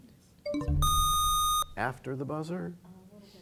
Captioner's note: bell chimes, time expires; buzzer sound